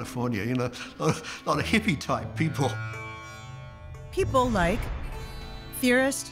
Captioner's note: chuckles